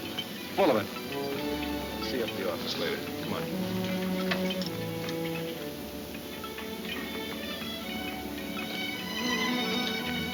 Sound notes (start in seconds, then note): 3.1 metal clanking; 5.3 dramatic music